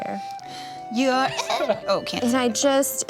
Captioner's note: laughs